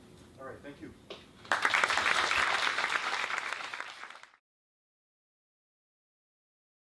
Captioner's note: applause